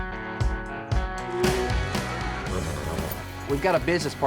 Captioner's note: cattle mooing